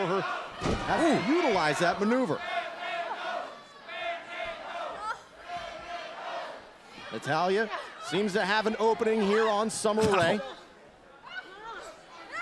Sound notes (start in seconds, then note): 2.5 crowd cheering; 10.9 crowd chatter